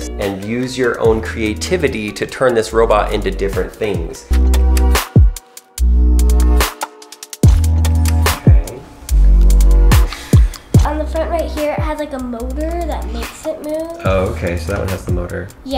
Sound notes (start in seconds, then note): 5.0 slow electronic music; 9.8 exhales